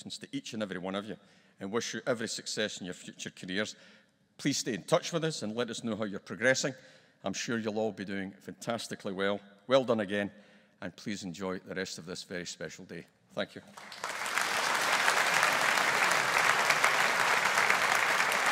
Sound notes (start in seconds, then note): 13.7 audience applauding